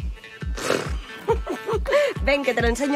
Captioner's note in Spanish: Risas